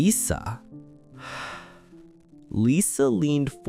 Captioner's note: sigh